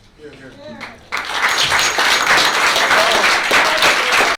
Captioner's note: applause